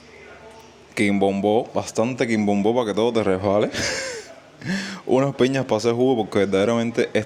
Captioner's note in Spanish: risas